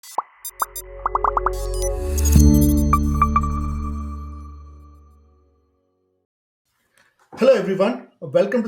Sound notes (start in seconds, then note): 1.0 bubbles popping; 1.1 gentle chiming music